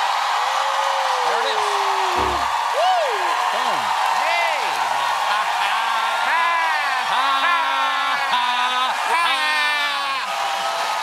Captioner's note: cheers and applause